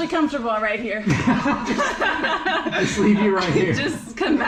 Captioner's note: laughing